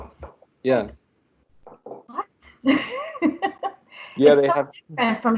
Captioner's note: laughter